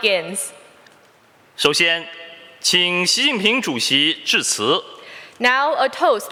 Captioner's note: speaking Mandarin Chinese